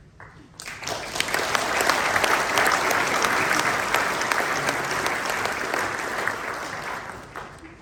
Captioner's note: applause